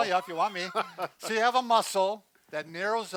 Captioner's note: laughs